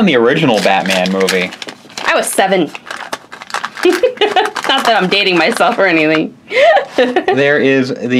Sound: laughs

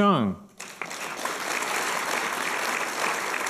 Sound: applause

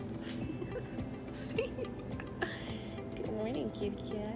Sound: laughs

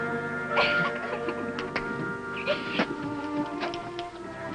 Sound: giggling

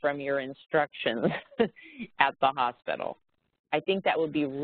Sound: laughs

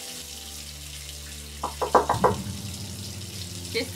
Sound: door knocking

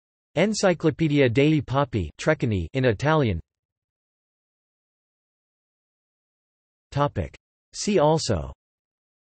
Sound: in Italian

